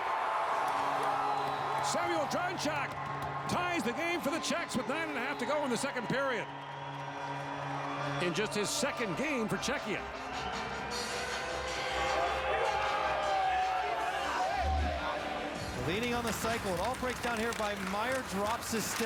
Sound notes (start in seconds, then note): 8.1 crowd Reacts; 10.5 horn